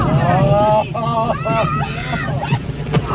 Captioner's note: cheerful shouting; laughter